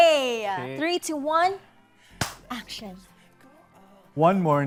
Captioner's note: claps